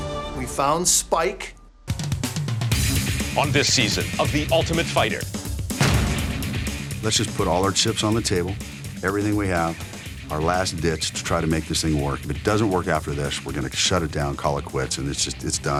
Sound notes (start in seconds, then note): none